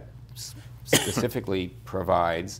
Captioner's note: coughs